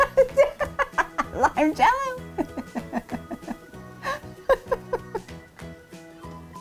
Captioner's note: laughing